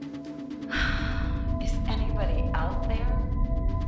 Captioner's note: sighs